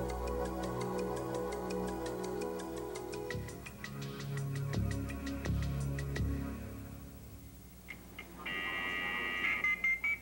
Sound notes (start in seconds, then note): 8.4 modem dialing